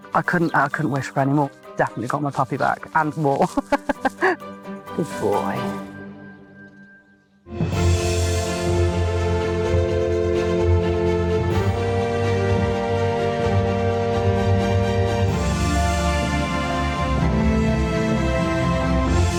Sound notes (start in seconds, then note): 3.4 laughing; 7.6 upbeat music